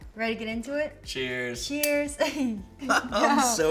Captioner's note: laughs